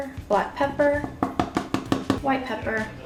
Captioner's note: thumping sound